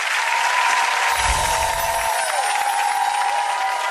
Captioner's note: audience clapping and cheering; chimes